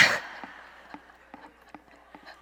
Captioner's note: crowd laughs